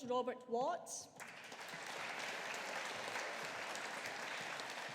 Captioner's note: audience applauding